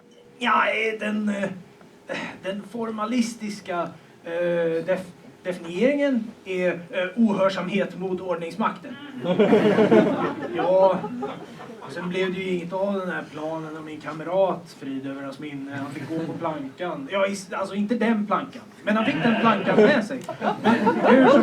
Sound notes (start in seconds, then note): 9.2 laughter; 19.2 laughter